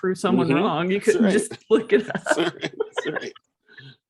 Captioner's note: laughs